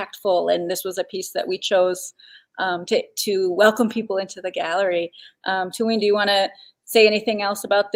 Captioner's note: speaking Dakota